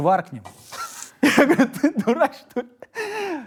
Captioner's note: laughs